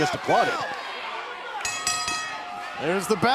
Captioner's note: bell ringing